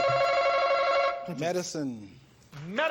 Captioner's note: button chimes